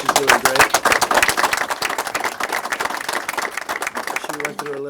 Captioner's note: applause